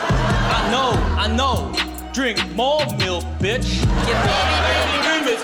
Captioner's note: laughter; laughter